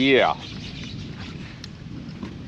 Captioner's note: reel cranking